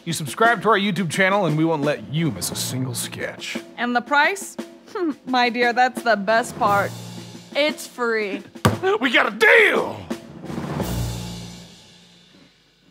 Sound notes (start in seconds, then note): 8.6 smack